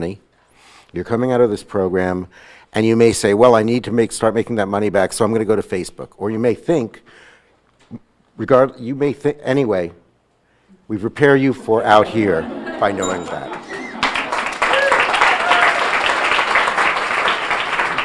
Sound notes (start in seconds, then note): 13.0 bell dinging; 13.7 audience laughing; 14.7 audience applauding